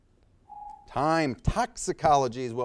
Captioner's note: timer beeps